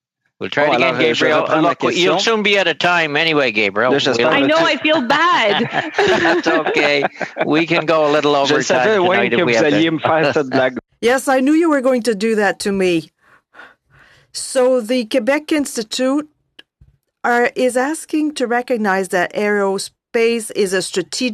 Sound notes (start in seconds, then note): 10.3 laughter; 13.3 speaking French